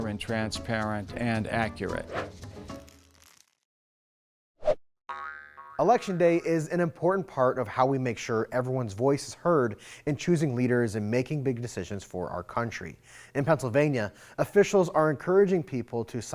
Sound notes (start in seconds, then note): 2.7 air whooshes; 5.1 globe boinging